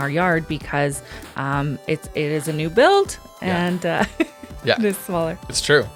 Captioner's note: laughs